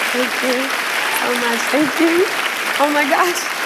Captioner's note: cheers and applause